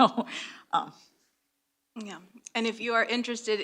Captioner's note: chuckles